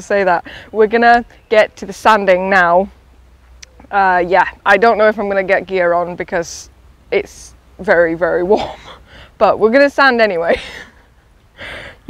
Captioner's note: laughs